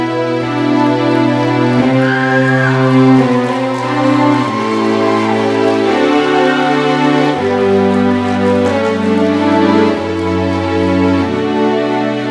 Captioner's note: applause and cheering